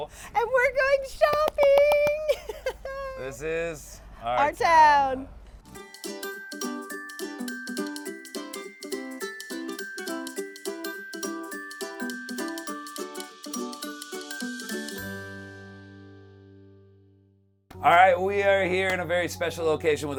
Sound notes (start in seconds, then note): 1.8 laughs happily; 5.8 bright gentle music